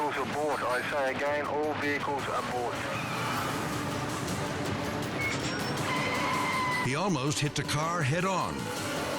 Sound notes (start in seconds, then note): 1.9 dramatic music continues; 5.7 tires screeching